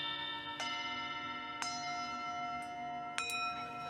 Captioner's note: bells ringing